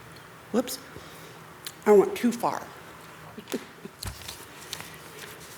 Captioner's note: chuckles